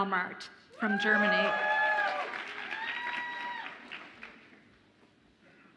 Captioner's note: audience applauds and cheers